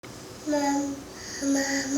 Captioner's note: baby gibberish